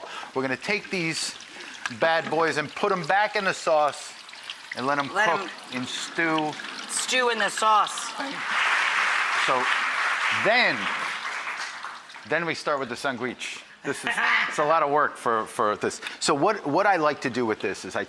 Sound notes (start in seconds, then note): 8.4 audience cheering; 13.8 Rachael laughing